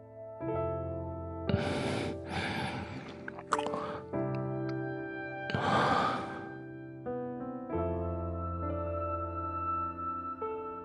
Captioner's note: noises of him eating… something, and sighs in satisfaction